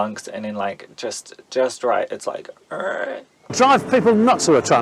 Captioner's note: urrrrrgh